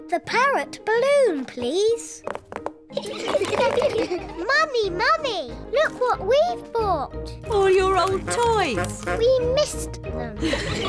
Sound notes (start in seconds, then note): 3.0 all laugh; 10.4 all laugh